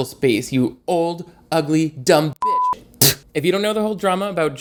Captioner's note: beep; spits